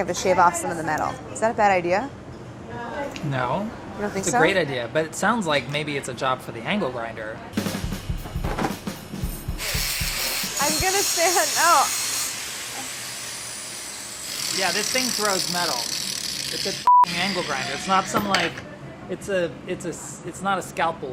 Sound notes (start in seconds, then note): 7.5 upbeat jazzy music; 16.8 beeps